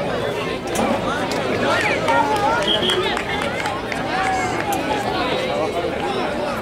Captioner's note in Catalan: Xiulet